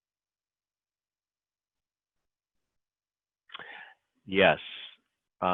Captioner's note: silence